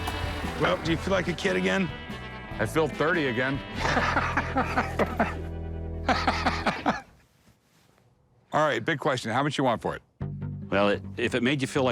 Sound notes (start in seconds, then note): 3.7 laughs